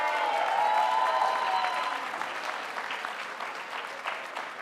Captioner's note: audience applauding